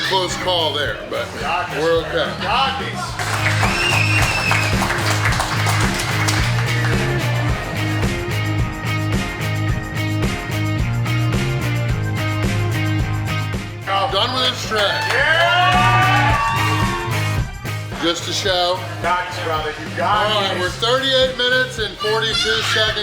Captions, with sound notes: That was a close call there but we're okay. (crowd cheering) (upbeat music) All done with this tray. (crowd cheering) (upbeat music) Just to show, we're 38 minutes and 42 seconds in.